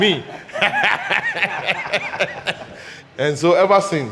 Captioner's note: everybody laughing